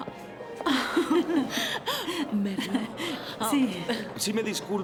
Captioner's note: laughing